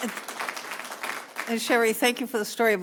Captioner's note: applause